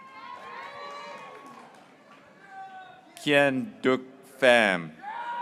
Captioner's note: graduates cheering